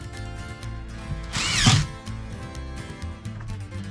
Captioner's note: door creaks